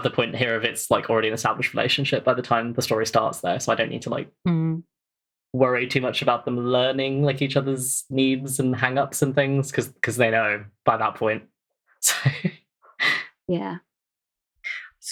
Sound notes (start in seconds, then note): 12.0 laughs